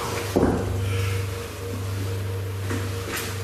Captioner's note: knocks